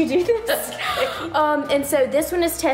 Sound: both laughing

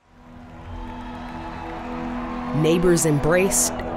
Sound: excited crowd

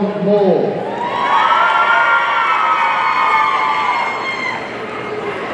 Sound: audience cheering

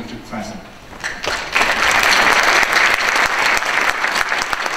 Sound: audience applause

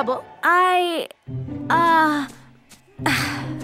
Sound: stammers

